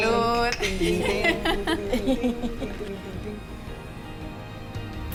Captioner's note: group laughing; gentle music